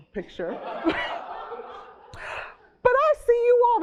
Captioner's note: laughing